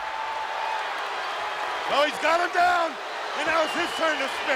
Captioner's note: crowd cheering